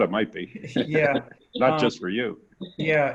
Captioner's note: laughs